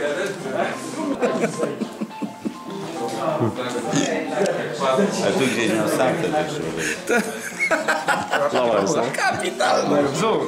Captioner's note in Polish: śmiech